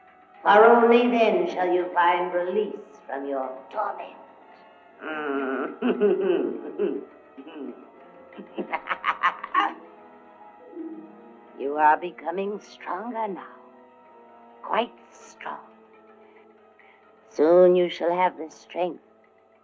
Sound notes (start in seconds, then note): 5.2 evil chuckling; 8.3 evil cackling